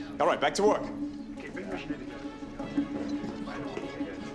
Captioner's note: indistinct chatter